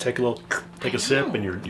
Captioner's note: slurp